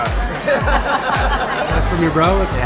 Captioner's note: laughter